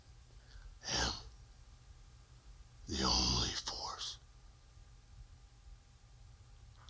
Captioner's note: breathes heavily